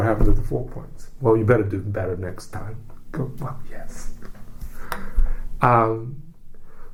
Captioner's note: whispers